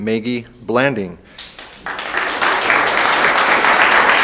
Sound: room applauds

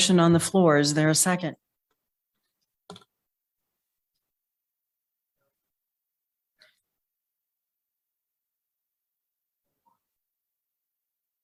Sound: is speaking without a mic

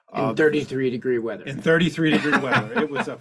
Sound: laughs

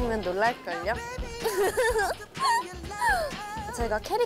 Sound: haha

